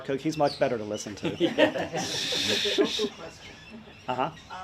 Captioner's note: audience laughs